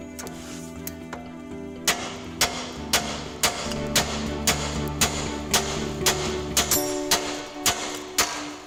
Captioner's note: loud banging and background music